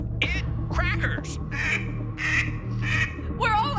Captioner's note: quacking